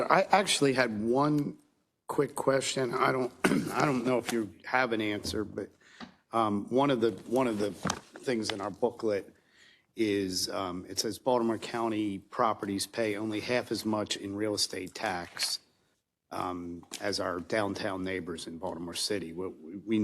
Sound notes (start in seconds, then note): 3.3 cough